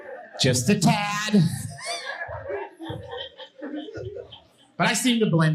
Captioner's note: audience laughing